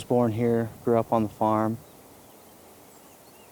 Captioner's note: birds chirping